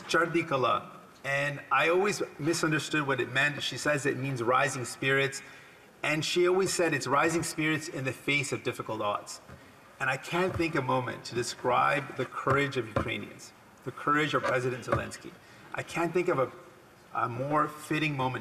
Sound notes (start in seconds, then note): 10.6 speaking Alternate Language